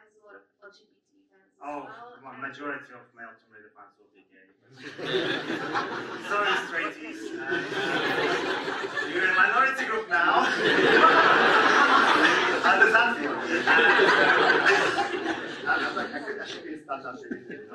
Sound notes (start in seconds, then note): 6.6 audience laughs; 9.5 audience laughs; 12.5 audience laughs